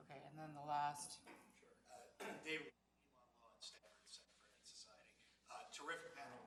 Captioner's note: speaks away from microphone